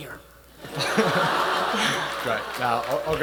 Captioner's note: attendees laughing